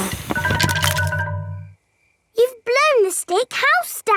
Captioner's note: blowing